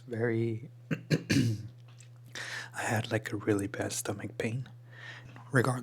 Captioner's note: clears throat